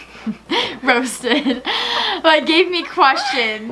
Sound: laughs

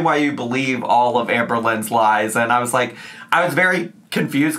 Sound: none

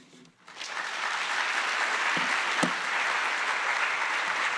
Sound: attendees applauding

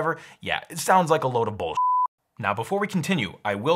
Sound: beep

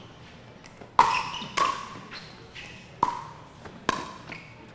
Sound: ball bouncing

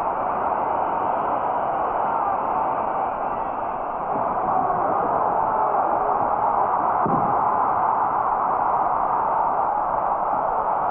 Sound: cheering

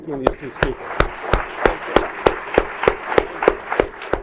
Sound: applause

